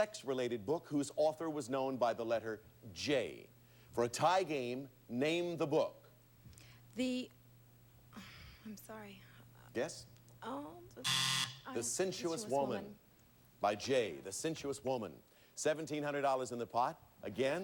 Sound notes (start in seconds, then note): 11.0 buzzer sounds